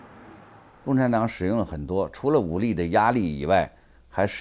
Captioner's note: speaks in Chinese